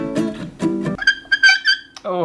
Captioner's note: screeching!!!